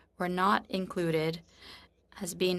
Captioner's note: speaking French